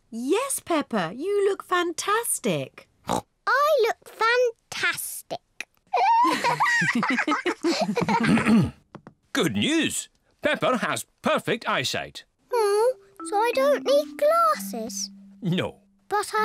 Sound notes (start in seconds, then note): 3.7 snorts; 6.0 both laugh